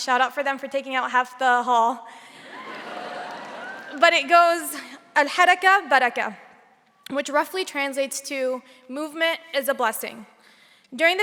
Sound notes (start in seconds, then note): 2.4 audience laughing; 5.4 speaking native language